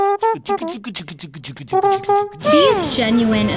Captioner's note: beatboxing